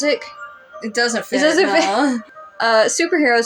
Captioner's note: chuckle